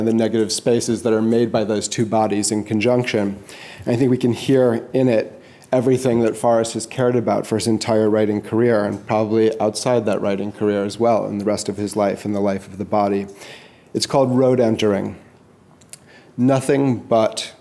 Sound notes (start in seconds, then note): none